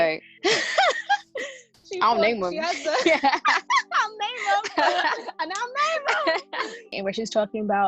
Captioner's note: laughing